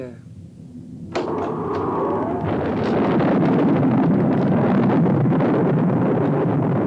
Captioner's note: thunder rumbling; wind whooshing